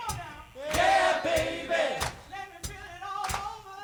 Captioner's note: crowd